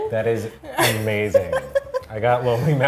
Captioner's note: laughing